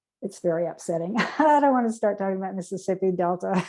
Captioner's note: laughter